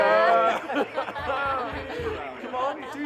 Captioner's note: group laughing